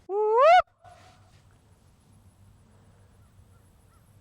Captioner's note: investigator whooping